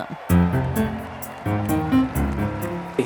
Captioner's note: applause